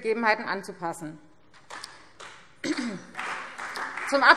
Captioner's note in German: Beifall Freie Demokraten